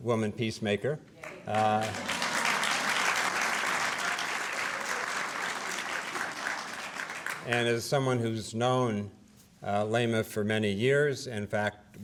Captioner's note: applause